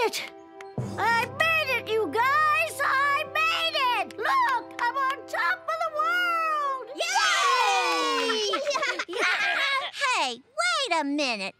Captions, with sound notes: I made it, you guys! I made it! Look! I'm on top of the world! [cheering] [laughing] Hey, wait a minute.